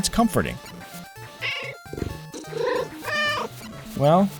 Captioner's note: meow